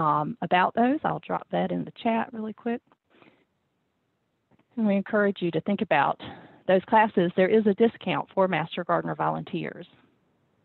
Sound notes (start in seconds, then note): none